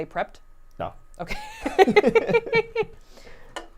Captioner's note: laughing